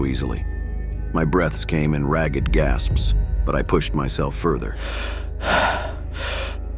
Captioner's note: gasps